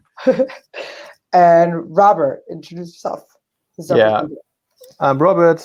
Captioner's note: chuckles